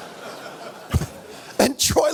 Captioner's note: audience laughs